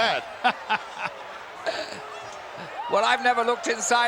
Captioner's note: chuckles